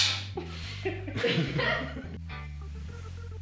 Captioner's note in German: Gelächter